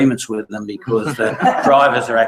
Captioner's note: laugh